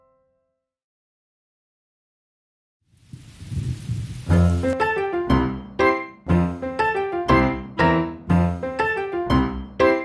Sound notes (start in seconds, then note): 3.1 faint thunder; 4.2 perky music